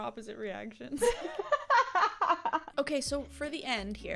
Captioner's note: laughs